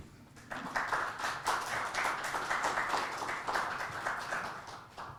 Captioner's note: audience clapping